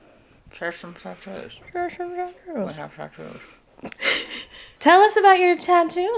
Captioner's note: laughs